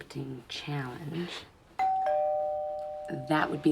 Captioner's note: doorbell rings